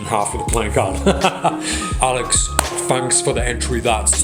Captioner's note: laughs